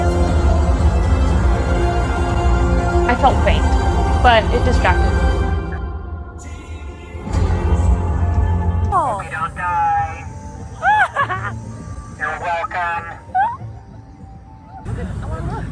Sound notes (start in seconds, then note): 6.4 upbeat music; 10.8 giggles